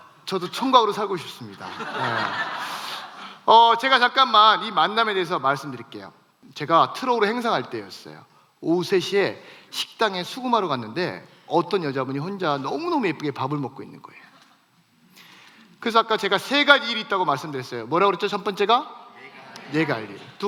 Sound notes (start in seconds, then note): 1.6 laughs